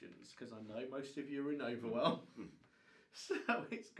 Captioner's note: chuckles